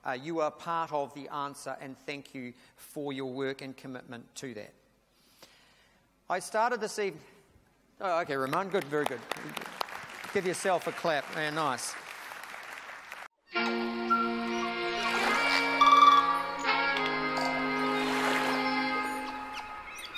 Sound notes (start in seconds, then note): 8.5 audience applauds; 13.4 jazzy music; 13.6 animal sounds